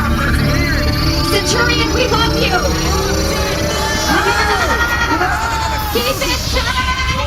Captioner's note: screaming